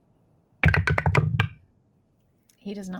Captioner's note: dice rolling